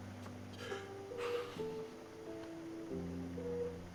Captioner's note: sobs